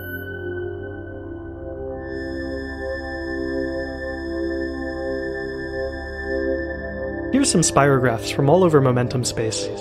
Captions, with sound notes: [Computer Generated Sound] Here's some spirographs from all over momentum-space.